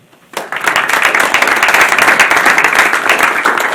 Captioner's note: applause